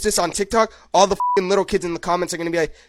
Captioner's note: beeps